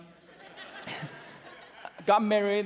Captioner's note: laughter